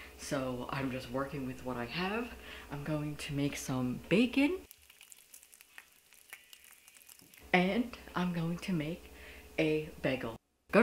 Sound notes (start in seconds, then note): 4.6 bacon sizzling